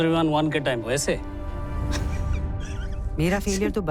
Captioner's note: giggling